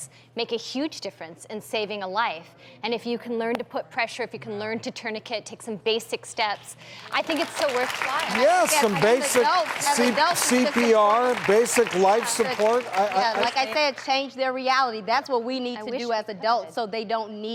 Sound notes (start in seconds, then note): 8.2 applause